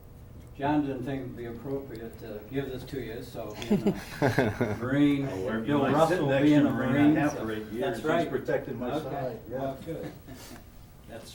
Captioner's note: laughter